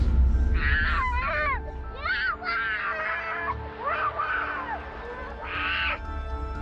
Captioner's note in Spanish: Gritos